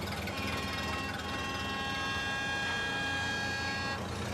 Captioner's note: truck horn honking